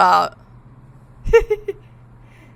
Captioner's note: laughs